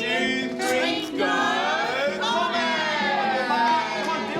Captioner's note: cheer